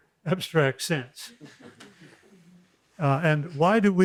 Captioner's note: laughter